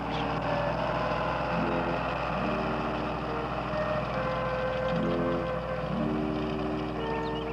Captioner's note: tractor whirring